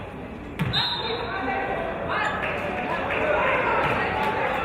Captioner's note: referee's whistle